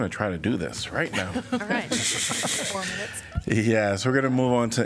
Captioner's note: laughter